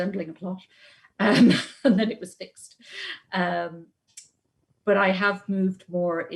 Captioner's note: laughs